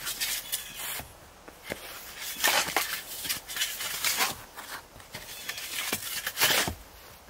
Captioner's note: blue jay calling; shoveling